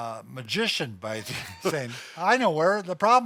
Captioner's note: laughs